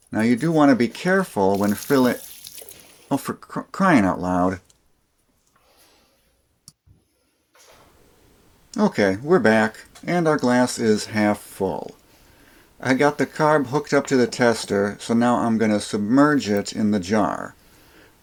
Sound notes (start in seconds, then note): 1.4 spilling sounds